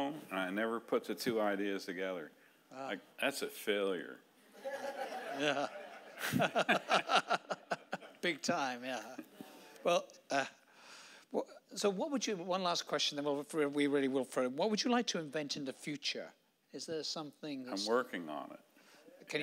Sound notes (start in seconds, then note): 4.6 audience laughing